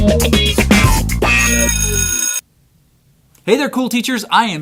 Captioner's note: bell rings